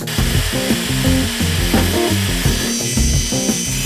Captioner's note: sawing